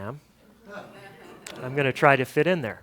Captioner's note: audience laughter